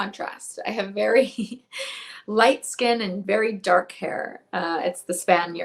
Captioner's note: chuckles